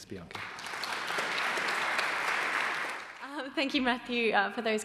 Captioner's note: audience applauding